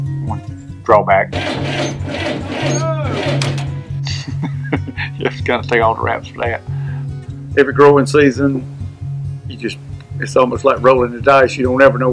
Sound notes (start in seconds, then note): 1.3 sound of motor not working; 4.0 chuckle